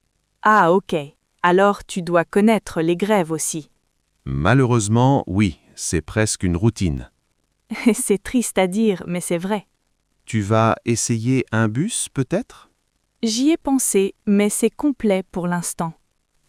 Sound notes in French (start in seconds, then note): 7.5 rire